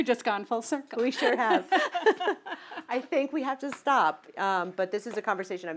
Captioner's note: laugh